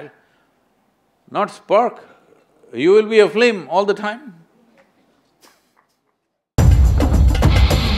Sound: laughs

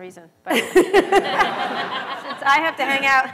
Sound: laughter

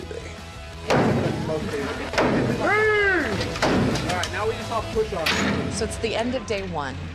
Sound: banging

